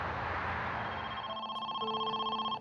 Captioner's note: phone ringing